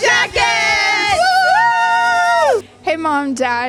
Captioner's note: cheering